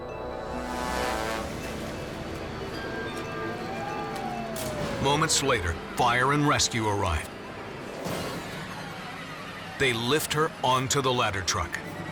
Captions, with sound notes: (siren) Moments later, fire and rescue arrives. They lift her onto the ladder truck.